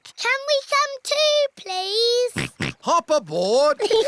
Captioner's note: snorts